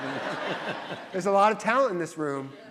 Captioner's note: audience laughs